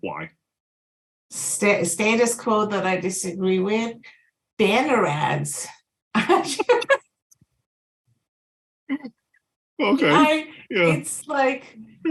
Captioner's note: laugh